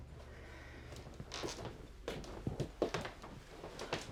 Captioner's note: floor creaking